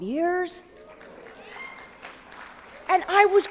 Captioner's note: applause